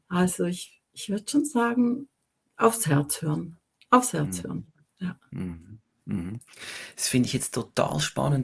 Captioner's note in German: räuspern